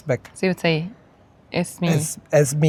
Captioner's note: speaking Egyptian Arabic